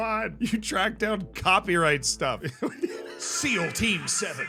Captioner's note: laughs